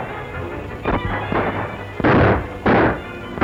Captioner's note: gunshot